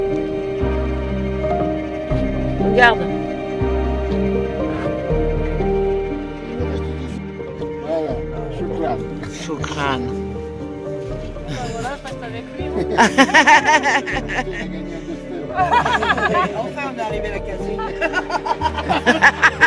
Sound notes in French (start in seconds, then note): 12.7 rires